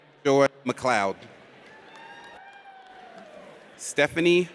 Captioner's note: audience cheers